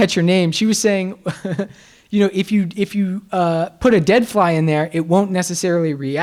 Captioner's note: laughs